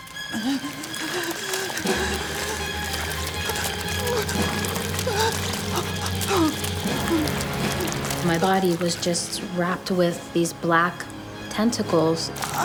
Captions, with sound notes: (wet splashing noises) My body was just wrapped with these black tentacles.